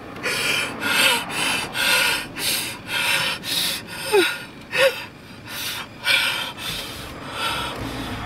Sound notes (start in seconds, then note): 3.1 heavy breathing